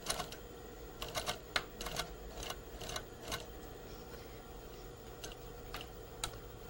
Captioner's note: sewing machine